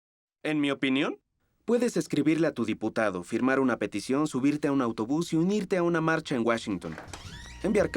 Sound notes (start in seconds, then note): 0.5 voiceover